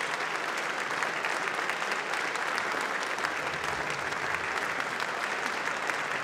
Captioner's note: applause